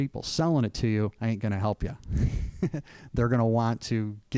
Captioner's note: laughing